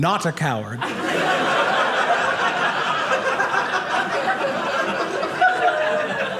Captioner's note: audience laughing